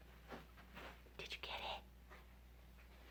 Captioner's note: whispers